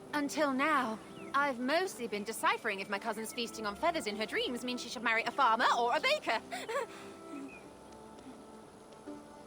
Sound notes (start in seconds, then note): 6.4 laugh